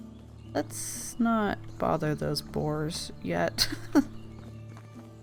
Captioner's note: laughs